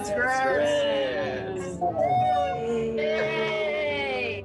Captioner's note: crowd